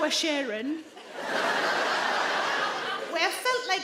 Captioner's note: audience laugh